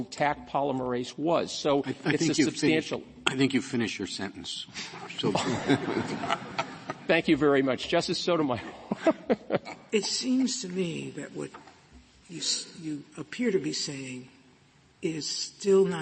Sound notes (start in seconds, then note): 5.2 laughter